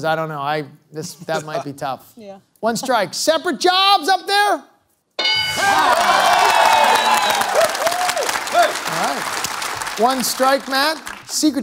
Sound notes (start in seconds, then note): 5.2 bell dings; 5.6 applause